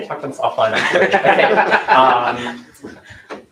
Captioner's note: laughter